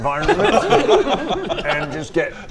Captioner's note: laughter